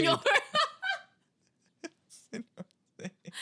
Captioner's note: laughing